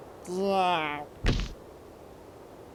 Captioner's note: thud